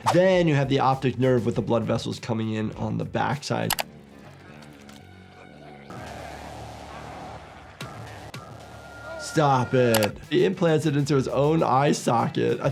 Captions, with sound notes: Then you have the optic nerve with the blood vessels coming in on the backside. (computer mouse clicks) (Art grunting lowly) (scary music) Stop it. He implanted into his own eye socket.